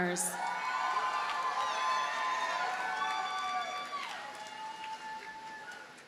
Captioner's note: audience cheers and applauds